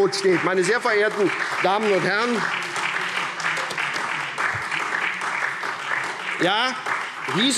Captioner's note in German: Beifall SPD